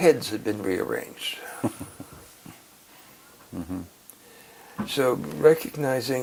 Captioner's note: laugh